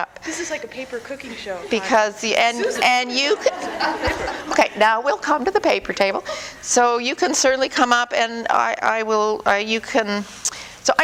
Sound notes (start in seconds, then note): 1.5 audience: Laughter; 2.4 laughter